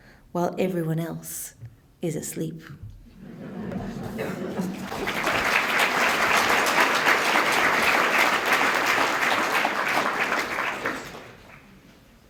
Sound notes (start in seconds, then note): 4.4 applause